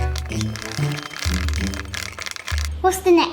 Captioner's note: timer ticks